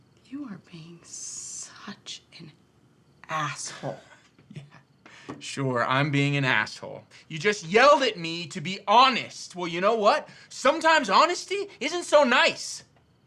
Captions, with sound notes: - You are being such an asshole. - (chuckles) Yeah, sure, I'm being an asshole. You just yelled at me to be honest! Well, you know what? Sometimes honesty isn't so nice!